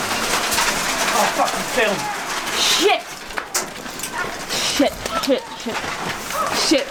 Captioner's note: journalists and the Ukrainian soldiers shouting